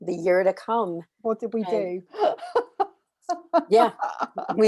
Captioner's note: laughs